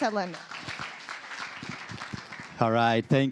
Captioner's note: applause